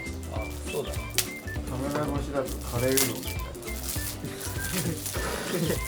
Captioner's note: laughs